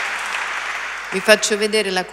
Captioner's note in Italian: Applauso